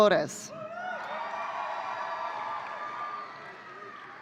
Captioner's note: audience cheering